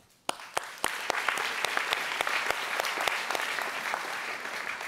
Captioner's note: audience applauds